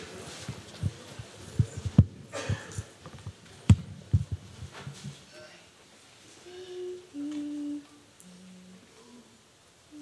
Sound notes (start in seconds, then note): 6.4 humming